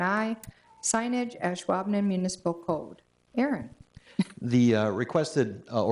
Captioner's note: chuckles